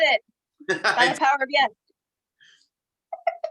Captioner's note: laughs